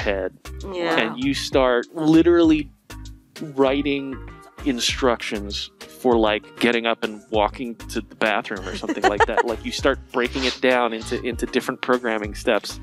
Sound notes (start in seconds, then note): 8.4 laughing